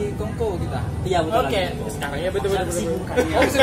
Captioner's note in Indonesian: laugh